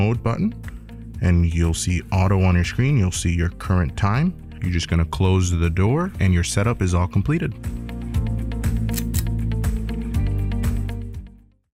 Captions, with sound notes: button and you'll see Auto on your screen. You'll see your current time. You're just gonna close the door and your setup is all completed. [Click]